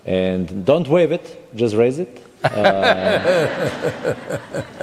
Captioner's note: laughter